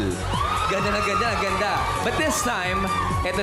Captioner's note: audience screams